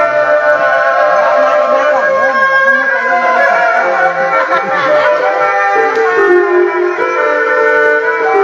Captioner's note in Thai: ปรบมือ